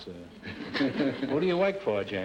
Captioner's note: audience laughter